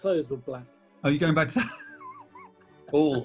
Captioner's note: laughs